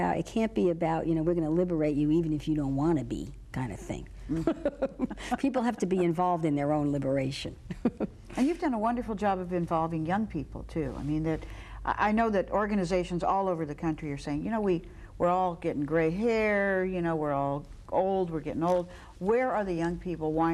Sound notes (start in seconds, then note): 4.3 laughs